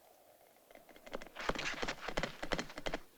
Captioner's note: horse approaching